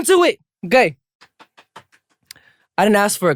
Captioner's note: claps